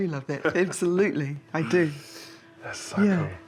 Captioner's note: chuckles